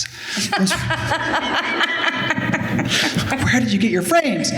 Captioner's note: laughter